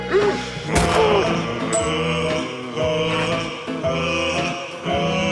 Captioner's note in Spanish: Disparo